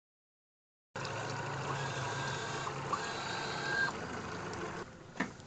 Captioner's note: boat engine revving